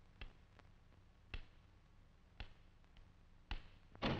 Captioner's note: cane tapping